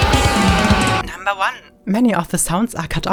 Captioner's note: electronic Voice